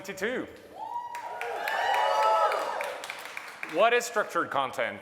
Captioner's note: audience cheering